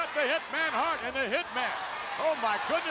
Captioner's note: spectators cheering